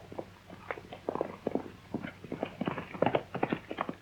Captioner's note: horse galloping